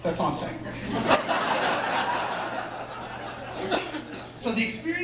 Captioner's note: laughter